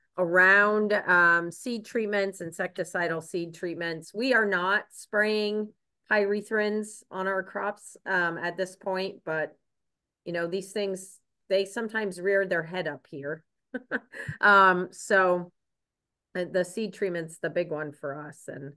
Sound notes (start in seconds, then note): 13.7 chuckles